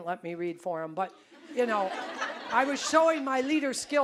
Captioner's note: audience laughing